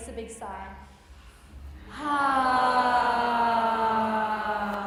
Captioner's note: all sigh slowly